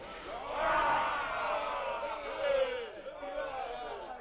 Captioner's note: chieftains shouting